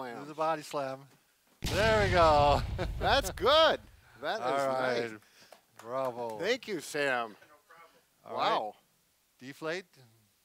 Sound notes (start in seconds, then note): 1.6 crashing explosion